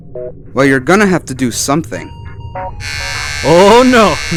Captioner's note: turns on razor